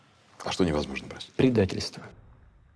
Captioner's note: speaking russian